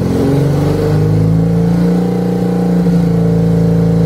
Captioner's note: engine now almost roaring